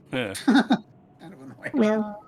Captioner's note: laughter